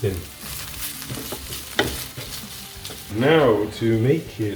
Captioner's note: food sizzling